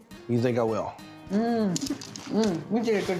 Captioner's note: crunchy sound